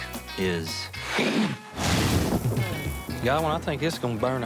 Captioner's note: roars; imitates ember igniting